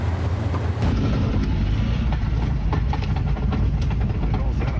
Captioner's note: engine purring